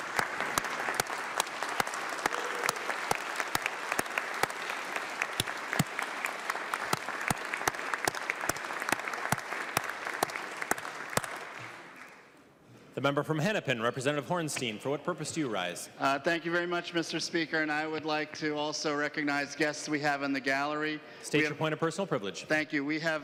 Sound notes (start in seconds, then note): 10.2 clapping